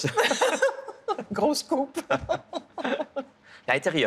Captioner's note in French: rires; rires